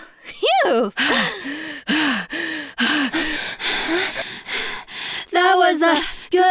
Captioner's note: heavy breathing